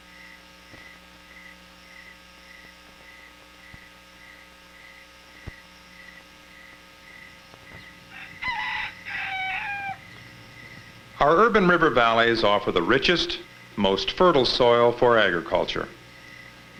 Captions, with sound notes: [chirping continues] [rooster crowing] Our urban river valleys offer the richest, most fertile soil for agriculture.